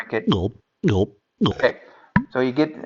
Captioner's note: drink gulping